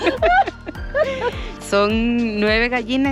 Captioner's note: laughs